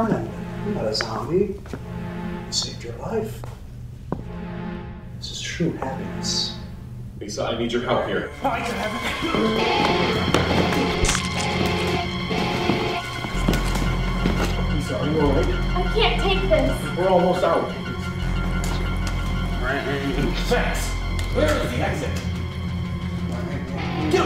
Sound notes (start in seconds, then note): 8.6 Ciez grunting; 9.4 dramatic music; 11.1 brain squishes